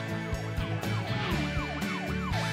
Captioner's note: alarm